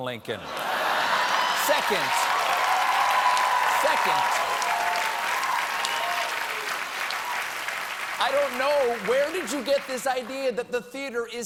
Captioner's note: cheers and applause